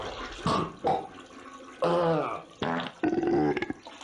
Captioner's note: more hangover noise; fart